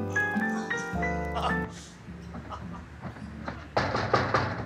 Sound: Rodney laughs

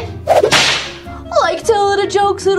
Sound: whip cracks

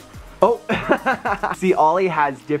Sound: laughter

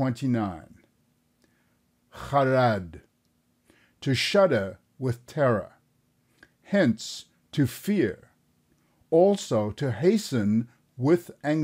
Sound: with anxiety

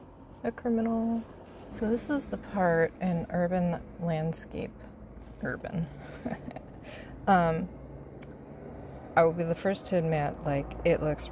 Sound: snickers

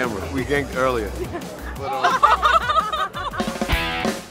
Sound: laughter; rock music

